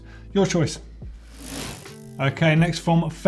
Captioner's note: bicycle gear whirs